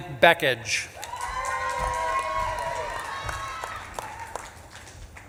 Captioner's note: audience claps and cheers